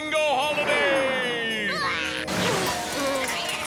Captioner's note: Milo yelps; loud crashing